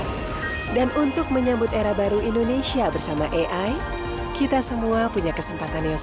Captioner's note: speaking indonesian